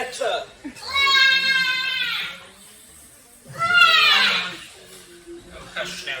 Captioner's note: loud Baby Crying